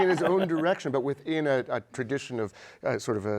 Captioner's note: laughter